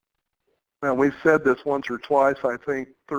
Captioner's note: voiceover